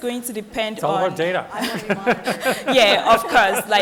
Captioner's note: laughs